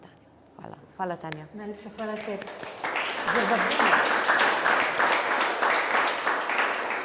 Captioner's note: applause